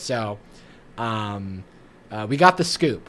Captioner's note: none